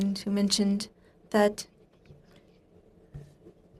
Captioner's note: speaking in french